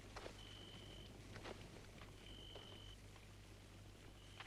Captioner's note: none